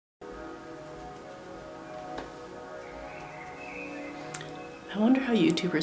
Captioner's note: endless chiming